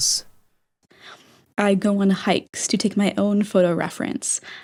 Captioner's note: inhale